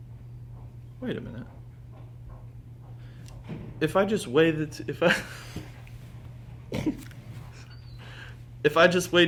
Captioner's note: laughter